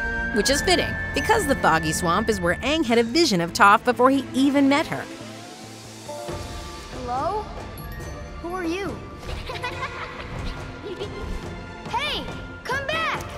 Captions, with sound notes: Which is fitting because the Foggy Swamp is where Aang had a vision of Toph before he even met her. Hello. Who are you? [laughing] Hey, come back!